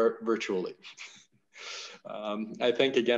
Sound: chuckles

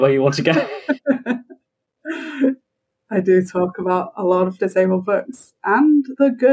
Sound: laughs

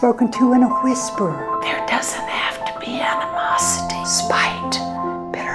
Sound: whispering

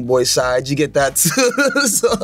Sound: laughs

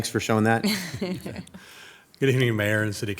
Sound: people laughing

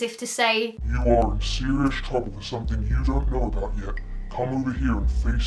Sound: evil, deep voice

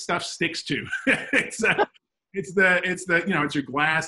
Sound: laughs

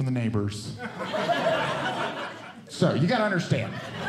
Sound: audience Laughing

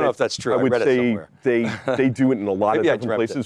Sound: laughs

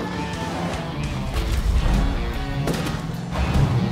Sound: tires squealing

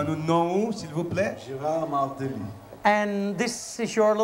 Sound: speaking in local tongue

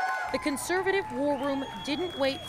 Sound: applause

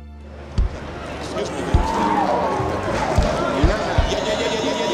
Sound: people chattering

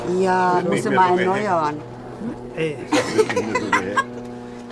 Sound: woman laughs

